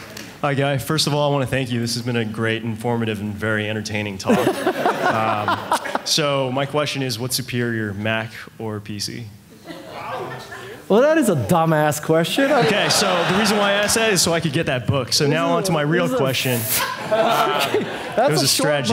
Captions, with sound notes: - Hi Guy, first of all, I wanna thank you. This has been a great informative and very entertaining talk. (audience laughing) So my question is what superior Mac or PC? - Well, that is a question. - Okay, so the reason why I say, so I could get that book, so now onto my real question. - That's the a short... - Strategy play.